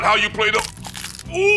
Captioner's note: cracking